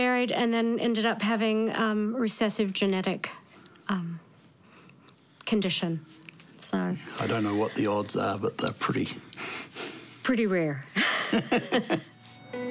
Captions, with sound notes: and then ended up having a recessive genetic... condition. So... I don't know what the odds are, but they're pretty... (CHUCKLES) Pretty rare. (BOTH CHUCKLE)